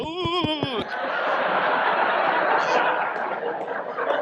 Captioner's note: audience laughs